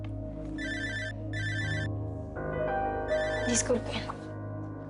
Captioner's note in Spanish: Suena un celular